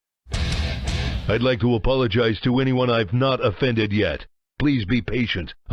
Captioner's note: duke nukem voice